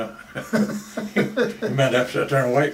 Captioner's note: both laugh